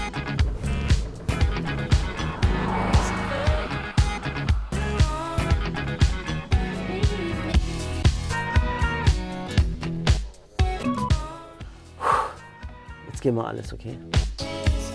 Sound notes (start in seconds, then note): 0.0 Dynamische Musik; 11.9 Tiefes Ausatmen